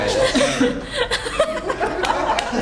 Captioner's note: laugh